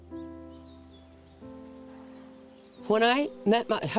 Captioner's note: birds chirping; soft music